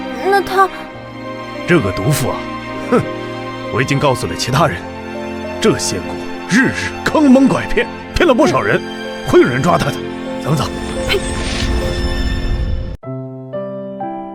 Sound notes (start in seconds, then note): 11.0 ptui!